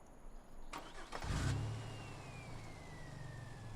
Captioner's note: motor starts smoothly